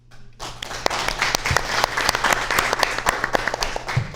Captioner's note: audience applauds